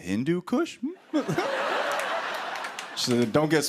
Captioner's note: laughter